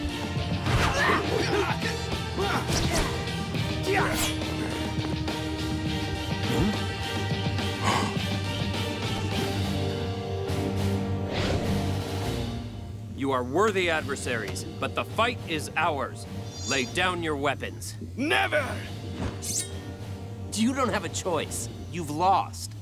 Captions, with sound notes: [grunting] Huh? [gasps] You are worthy adversaries. But the fight is ours. Lay down your weapons. Never! You don't have a choice. You've lost.